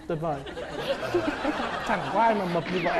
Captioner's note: laughing